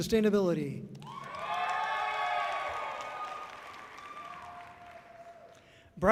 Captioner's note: audience cheering loudly